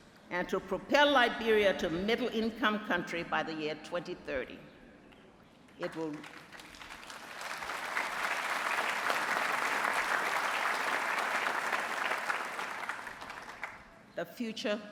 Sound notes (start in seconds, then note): 5.8 applause